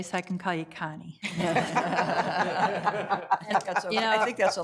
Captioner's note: everyone laughing